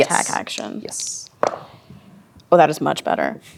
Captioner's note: dice rolling